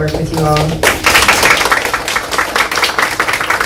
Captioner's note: applause